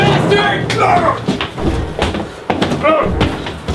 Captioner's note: grunting